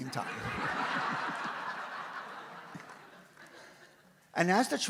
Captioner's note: audience laughs